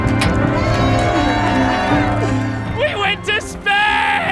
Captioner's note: cheering